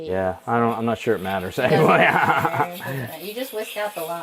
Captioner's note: chuckles